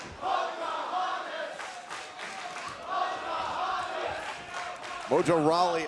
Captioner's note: crowd cheering